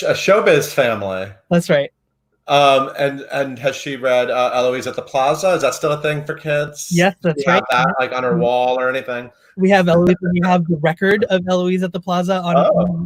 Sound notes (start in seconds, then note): 0.0 laughs; 7.3 laughs